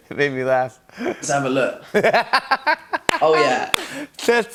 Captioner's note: laughs